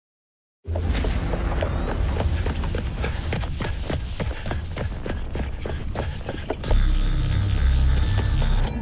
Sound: footsteps running

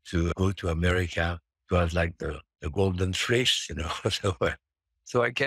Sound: chuckles

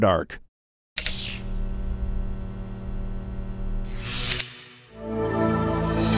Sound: electric sounds; jingle

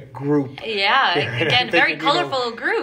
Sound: chuckles

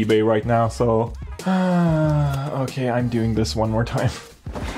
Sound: sighs

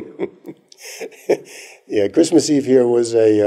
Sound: laughter

